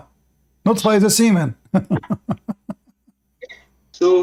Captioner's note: Ketawa